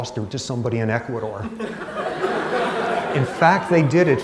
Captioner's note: laughter